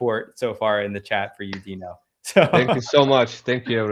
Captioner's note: chuckles